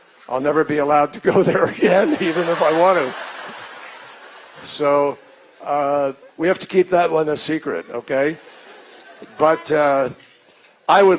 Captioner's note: laughter